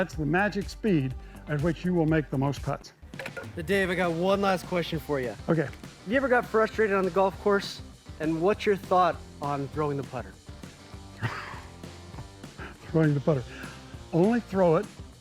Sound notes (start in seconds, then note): 11.1 laughs